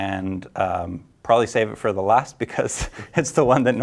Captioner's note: laughs